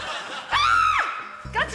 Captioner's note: screams